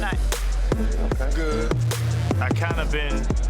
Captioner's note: crowd murmuring